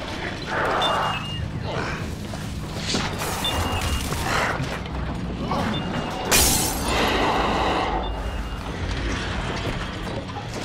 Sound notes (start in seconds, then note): 0.2 creature growls; 2.1 objects crashing; 4.1 alarm beeping; 6.3 glass breaks